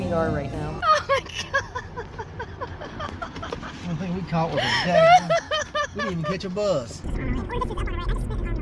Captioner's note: laughing